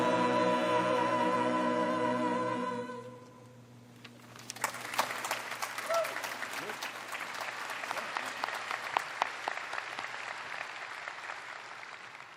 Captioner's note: applause